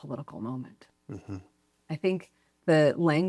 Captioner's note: pat